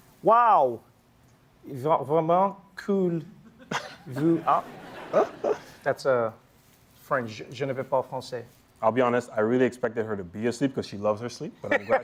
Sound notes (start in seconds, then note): 1.7 speaking french; 7.5 speaking french